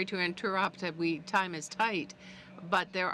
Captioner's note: speaking French